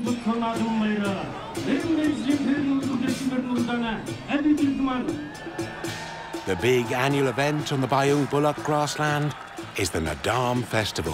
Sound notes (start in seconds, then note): 6.4 crowd cheering